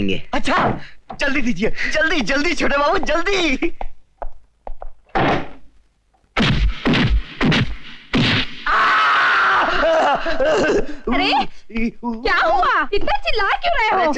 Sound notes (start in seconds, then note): 5.0 door Closes; 6.3 thwacking; 8.6 screaming